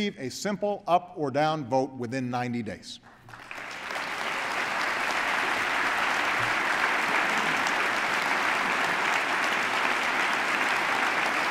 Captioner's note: applause